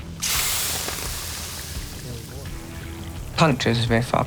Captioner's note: sizzling